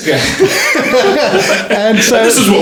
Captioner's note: laughing